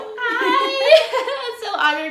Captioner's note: laughter